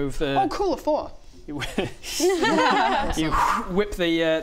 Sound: pitying laughter

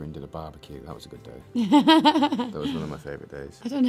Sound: laughs

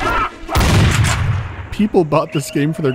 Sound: monkey commotion; bang

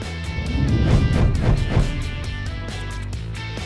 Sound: upbeat rock music; whooshing

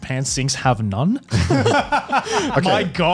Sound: laughs

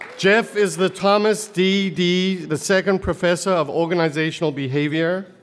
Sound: applause

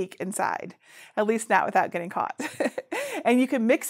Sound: giggles

